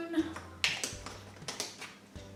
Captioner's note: lid screwing on